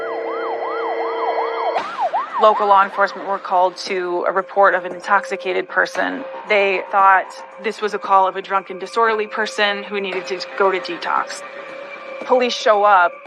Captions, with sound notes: [sirens wailing] - Local law enforcement were called to a report of an intoxicated person. They thought this was a call of a drunken disorderly person who needed to go to detox.